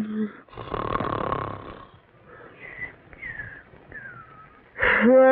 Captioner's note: ronflement